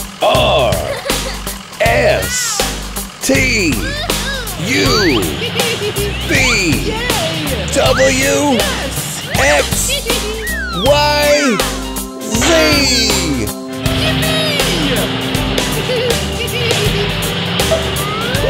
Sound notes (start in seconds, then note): 0.5 trucks giggling; 4.8 orange truck giggles; 9.6 orange truck laughs; 15.8 truck giggling